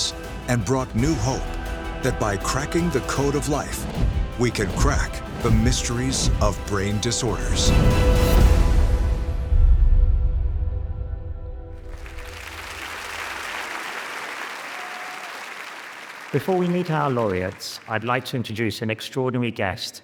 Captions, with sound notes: and brought new hope that by cracking the code of life, we can crack the mysteries of brain disorders. (suspenseful music) (audience applauding) - Before we meet our laureates, I'd like to introduce an extraordinary guest